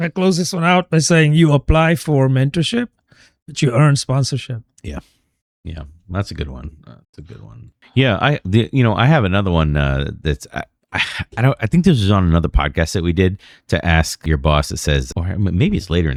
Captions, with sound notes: close one out by saying you apply for mentorship that you earn sponsorship. Yeah, yeah, that's good one. That's good one yeah, I, you know, I have another one [UH] that I think this on another podcast did to ask your boss says or maybe it's later